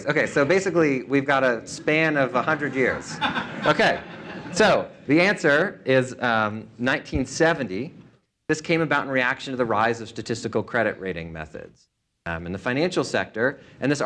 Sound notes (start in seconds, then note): 2.0 laughter